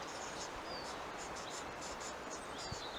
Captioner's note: none